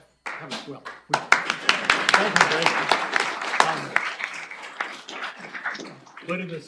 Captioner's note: applause